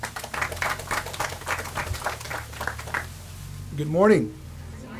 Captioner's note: audience applauds